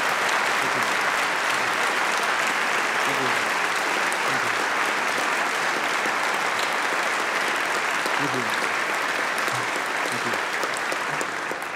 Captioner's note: applause